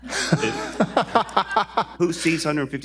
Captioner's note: laughing